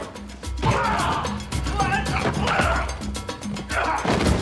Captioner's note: grunting